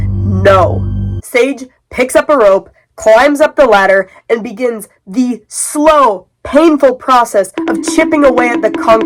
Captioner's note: bonking sounds